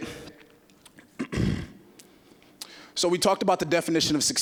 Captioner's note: clearing throat